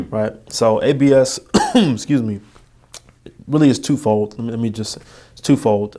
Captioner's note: coughing